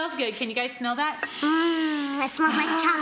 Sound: sniffing

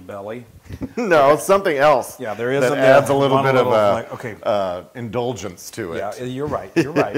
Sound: laugh

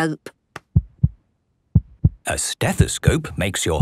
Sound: heart beating

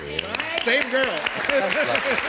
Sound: applause

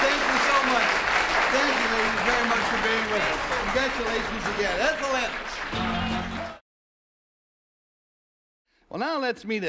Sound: cheers and applause

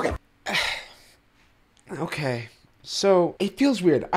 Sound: sighs

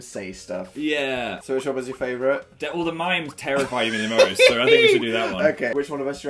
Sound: laughs

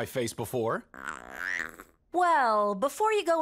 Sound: groans

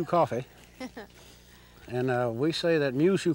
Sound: laughs

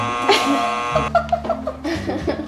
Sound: buzzer buzzing; laughing

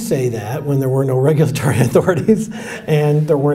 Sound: chuckles

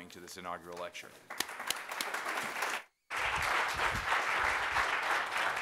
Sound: applause

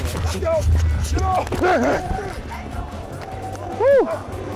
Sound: grunting

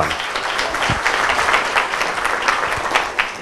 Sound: applause

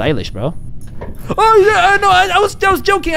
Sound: unhinged scared noises

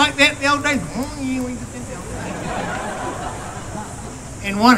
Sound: laughter; laughter

